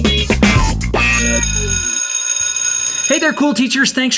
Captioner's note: school bell ringing